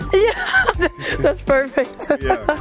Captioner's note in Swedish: Skratt